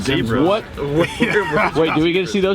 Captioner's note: laughing